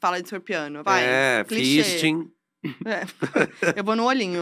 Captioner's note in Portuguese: risos